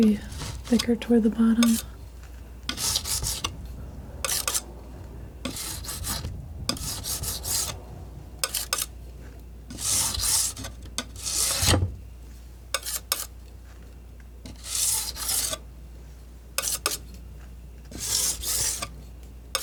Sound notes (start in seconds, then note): 2.6 metal scraping